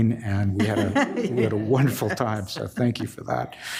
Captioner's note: laughs